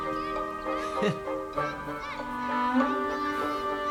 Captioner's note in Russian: усмешка